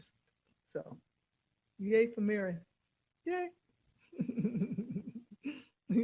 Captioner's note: laughs